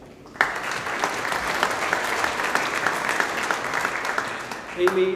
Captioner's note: audience applauding